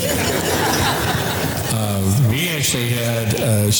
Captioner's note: audience laughter